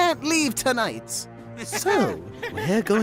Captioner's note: Balloon and Nickel laughing